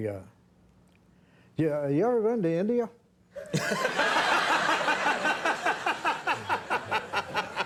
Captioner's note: Conan and audience laughing